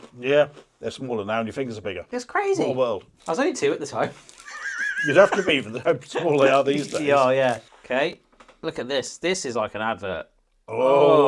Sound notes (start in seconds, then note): 4.4 laughing